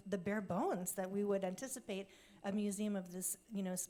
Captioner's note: none